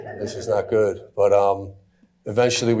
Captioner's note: audience chuckling